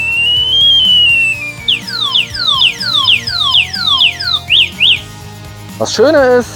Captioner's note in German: Lauter Sirenen-Ton